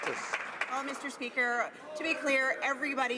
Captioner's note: some Applause